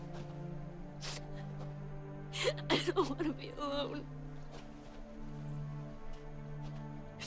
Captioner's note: Karen crying